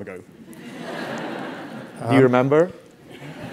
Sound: laugh

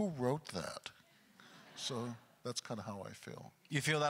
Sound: audience chuckles

